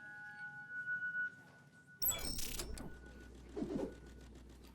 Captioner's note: computer blips